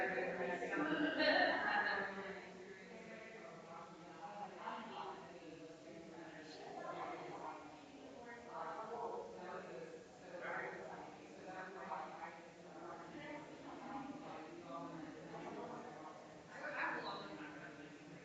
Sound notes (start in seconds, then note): 2.0 people chattering distantly continues